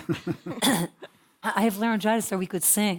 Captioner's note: cough; laugh